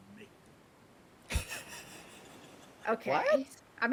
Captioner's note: person chuckling